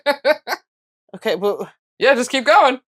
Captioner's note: sputters